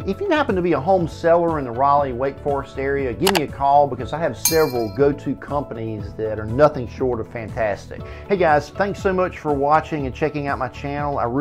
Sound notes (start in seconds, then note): 3.2 mouse clicking; 4.5 cymbals clashing